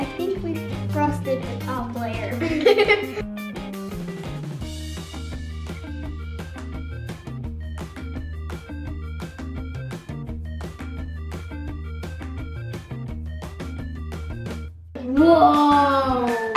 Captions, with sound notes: - I think we frosted the top layer. (laughing) (upbeat music) Whoa!